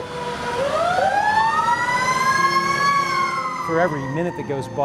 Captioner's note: sirens